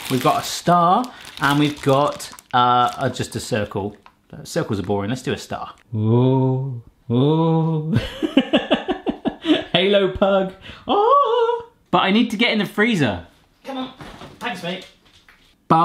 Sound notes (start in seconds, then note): 5.7 moaning; 7.9 laughs